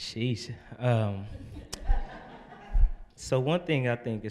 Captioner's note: audience laughing